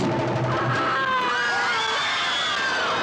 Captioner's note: Angela screams; audience screams